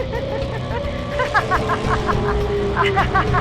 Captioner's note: laughing